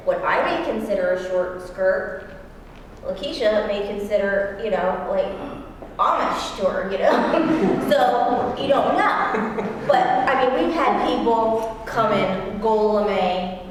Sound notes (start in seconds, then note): 7.2 laugh